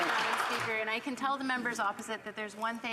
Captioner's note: some Applause